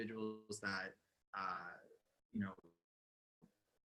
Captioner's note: audio distorts